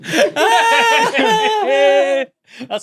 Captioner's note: laughs breathily; laughs